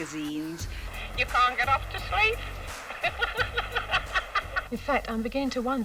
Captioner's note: laughs